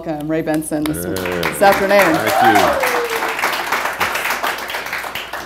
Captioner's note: clapping